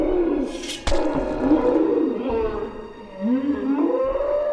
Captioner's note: Gory sound of Machete Edward